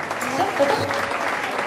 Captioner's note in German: Applaus